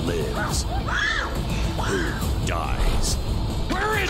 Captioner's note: screams